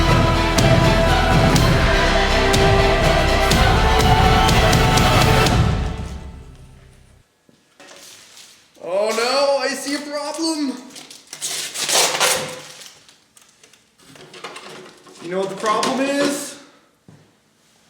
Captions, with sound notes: Oh no I see a problem (plastic peeling) You know what the problem is?